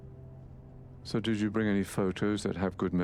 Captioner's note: voiceover